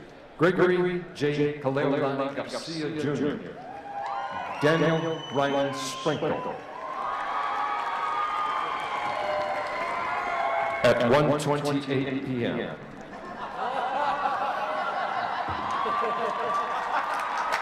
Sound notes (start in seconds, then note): 6.7 cheering; 15.0 applause